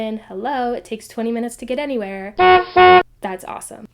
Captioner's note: honkhonk